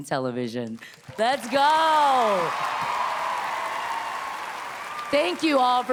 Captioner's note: audience cheering